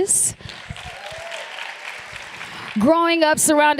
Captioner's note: applause